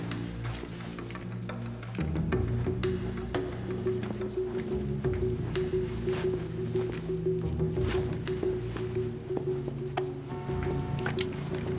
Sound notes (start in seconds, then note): 10.2 horn honking in the distance